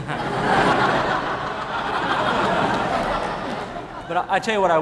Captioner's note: audience laughing